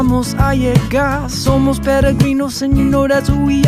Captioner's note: Spanish